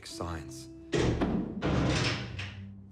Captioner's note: door closes and locks